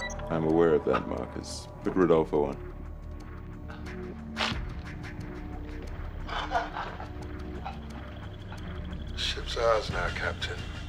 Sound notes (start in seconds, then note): 6.2 laughs